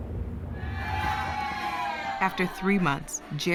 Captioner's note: cheering